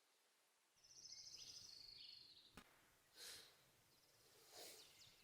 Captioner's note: birds chirping